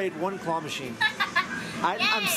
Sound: laughing

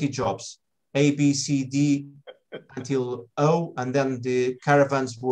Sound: laughs

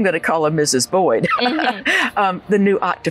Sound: laughs

